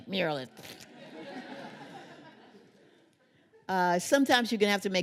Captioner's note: laughter